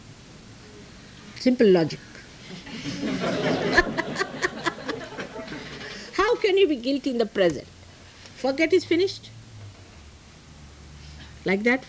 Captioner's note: laughs